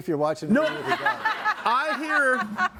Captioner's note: group laughs